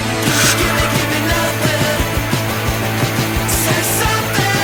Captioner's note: inhaler hisses